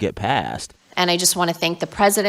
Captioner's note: soundbite of archived recording